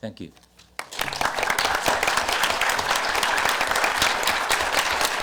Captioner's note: audience applause